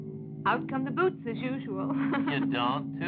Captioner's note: laughs